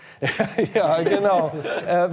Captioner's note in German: lacht